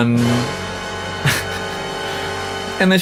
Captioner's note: laughs